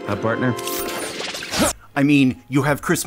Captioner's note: exertion grunt